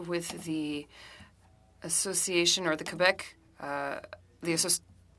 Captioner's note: speaking French